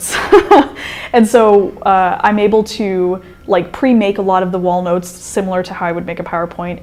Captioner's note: chuckle